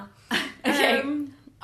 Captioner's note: laughs